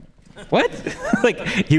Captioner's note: audience laughs